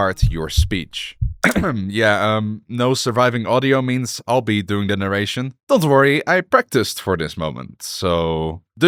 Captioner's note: cough